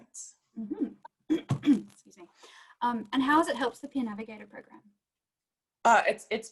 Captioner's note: clears throat